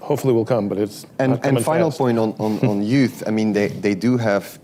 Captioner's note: laughs